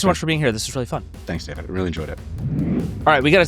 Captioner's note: graphics whooshing